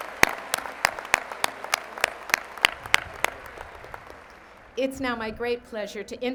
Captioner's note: applause